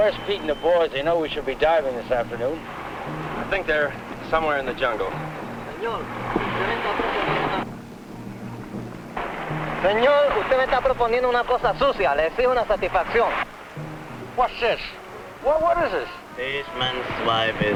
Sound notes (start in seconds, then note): 6.6 speaking spanish